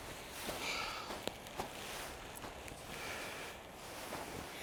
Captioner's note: James pants